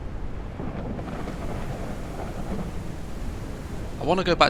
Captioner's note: muffled sounds of rain and thunder; heavy rain and thunder